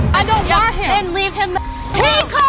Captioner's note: beep